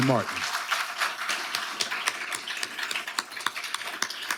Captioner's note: audience applauding